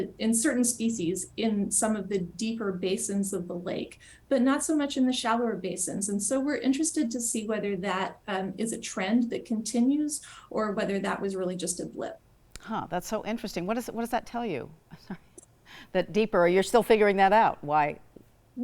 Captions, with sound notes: in certain species in some of the deeper basins of the lake but not so much in the shallower basins. And so we're interested to see whether that is a trend that continues, or whether that was really just a blip. Huh! That's so interesting. What does that tell you? (laughs) That deeper you're still figuring that out. Why?